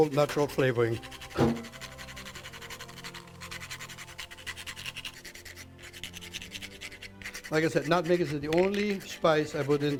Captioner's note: nutmeg being grated